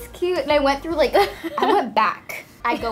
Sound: laughs

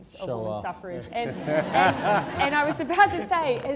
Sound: laughter

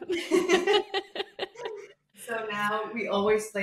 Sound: chuckles

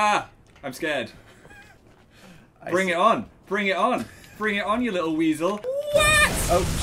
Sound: laughs

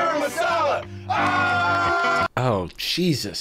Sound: men cheering

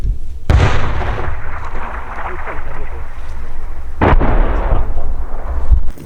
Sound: A cannon shot and an explosion

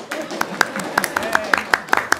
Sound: applause

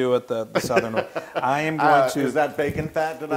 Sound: laugh

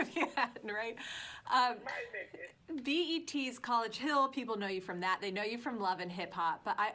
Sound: laughter

